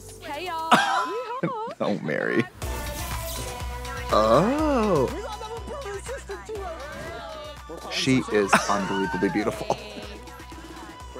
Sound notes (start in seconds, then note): 3.0 upbeat music; 7.5 all cheer